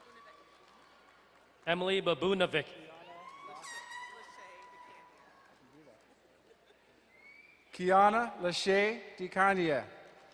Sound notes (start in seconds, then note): 3.5 crowd cheering and horn blaring